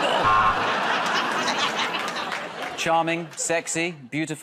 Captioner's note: buzzer